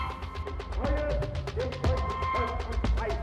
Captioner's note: speaks in German